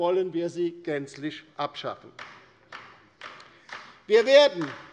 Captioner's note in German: Beifall bei der LINKEN